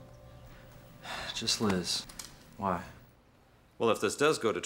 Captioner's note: sighs